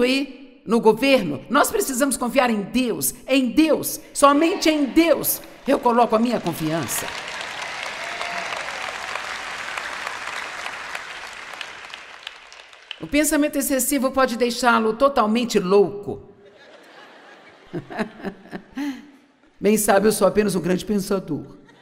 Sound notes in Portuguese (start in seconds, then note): 6.4 audiência aplaude